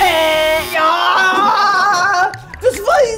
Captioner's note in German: Schrei